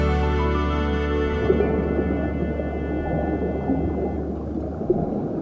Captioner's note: water gurgling